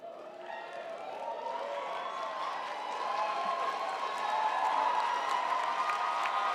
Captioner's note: audience cheering; audience applauding